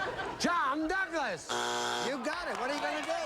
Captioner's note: buzzer